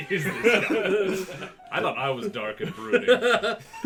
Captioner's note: laughter; laughs